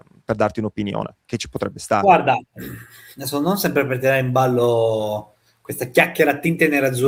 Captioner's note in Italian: schiarire la voce